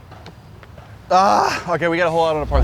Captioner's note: groans